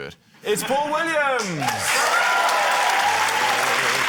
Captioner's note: cheering, applause